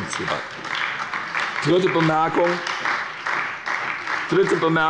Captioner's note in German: Beifall bei der SPD